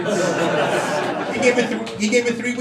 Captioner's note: crowd laughing